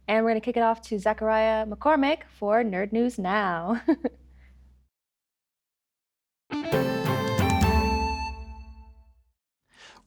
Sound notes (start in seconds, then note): 3.7 chuckles; 6.5 upbeat music